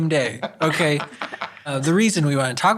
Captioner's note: laughs